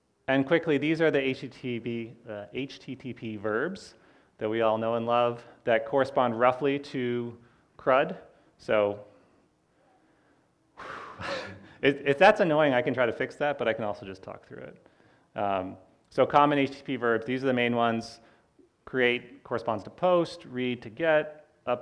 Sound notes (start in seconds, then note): 10.7 sighs